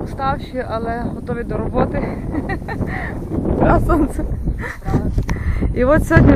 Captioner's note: laughter